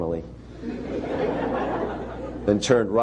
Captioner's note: laughter